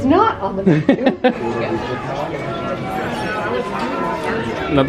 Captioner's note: laughing